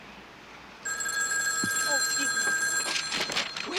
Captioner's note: phone rings